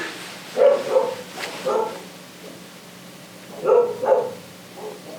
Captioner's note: sounds of dogs barking